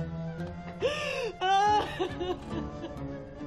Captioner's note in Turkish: Ağlama sesi